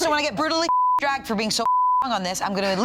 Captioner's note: beep